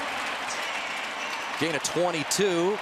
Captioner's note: cheering